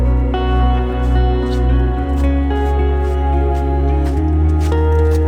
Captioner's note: feet thumping